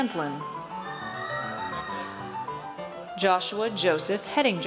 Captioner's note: audience cheers